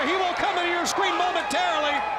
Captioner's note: crowd cheering